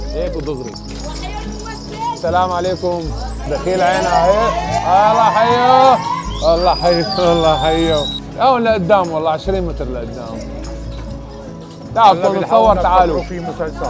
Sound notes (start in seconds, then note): 3.2 crowd cheers